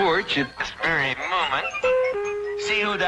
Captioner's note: doorbell ringing